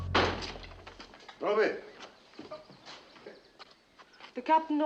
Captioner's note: speaking japanese